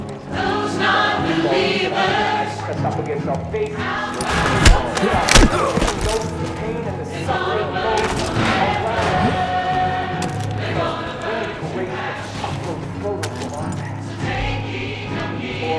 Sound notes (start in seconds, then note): 0.2 rock music; 4.1 gunshots; 5.0 rock music